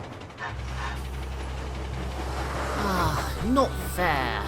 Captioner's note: bertie sighs